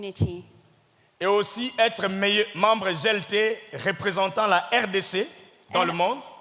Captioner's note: speaking in French